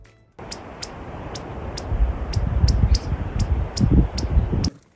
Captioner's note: chirping